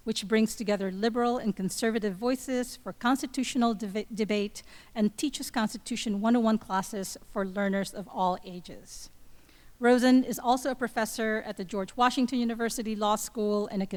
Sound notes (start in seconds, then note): none